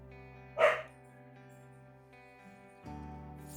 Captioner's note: dog barks